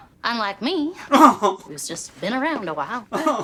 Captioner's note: loud chuckle; pitiful laughter